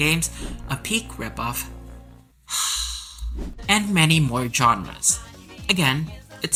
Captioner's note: sigh